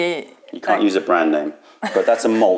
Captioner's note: laughter